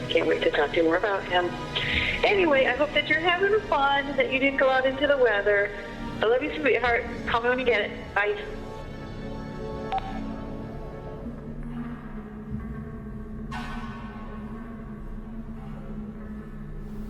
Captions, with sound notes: No puedo esperar para hablar con usted más acerca de él. De todos modos, espero que usted está teniendo diversión que no salía en el tiempo. Te amo cariño, llamada a mí cuando usted lo consigue, bye. (teléfono suena) (ominosa de la música)